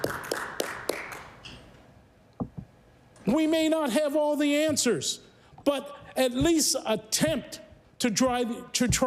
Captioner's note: applause